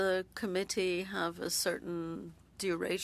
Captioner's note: speaking French